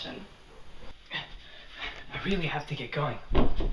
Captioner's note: Alex grunts